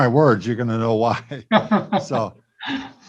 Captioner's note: both giggle